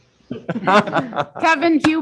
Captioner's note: everyone laughing